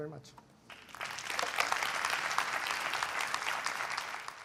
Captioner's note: applause